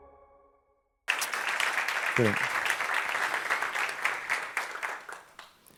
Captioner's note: applause